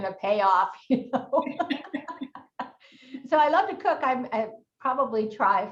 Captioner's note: both laughing